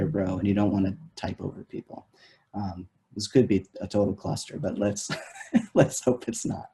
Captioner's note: laughs